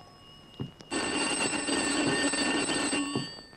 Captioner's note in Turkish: Telefon zili